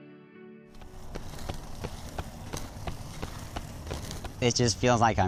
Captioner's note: feet thudding